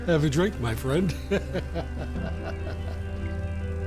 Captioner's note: laughs